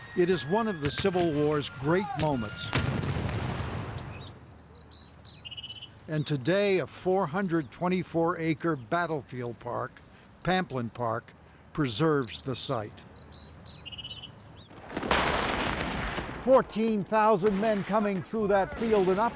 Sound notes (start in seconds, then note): 2.1 cannon blasts; 13.2 birds chirping; 13.2 guns blasts